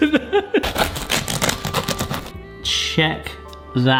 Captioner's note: knife chopping